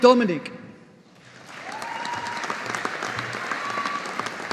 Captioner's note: audience applauding